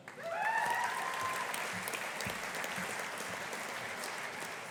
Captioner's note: audience applauding